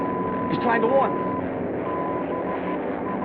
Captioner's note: beeping